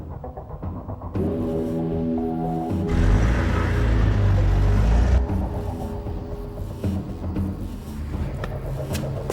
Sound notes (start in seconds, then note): 0.9 dramatic music; 2.8 engine rumbling